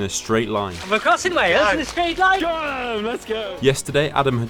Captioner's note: Welsh Accent